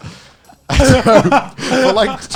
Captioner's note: laughing